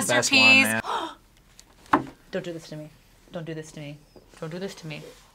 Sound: gasps

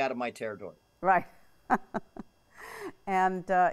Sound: laughs

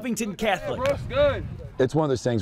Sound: sounds of football practice

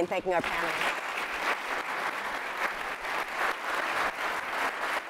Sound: audience applauding

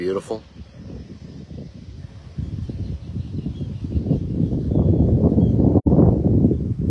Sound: birds chirping; wind blowing

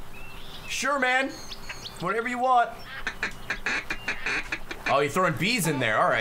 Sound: duck call

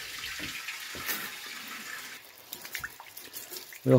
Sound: weak sound of water filling the hydrophore

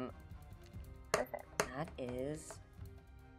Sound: dice thudding

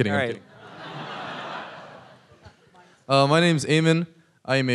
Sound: audience laughs

